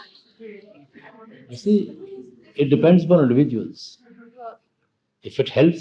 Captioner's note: laughter